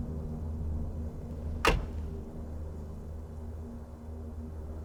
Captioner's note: car door thudding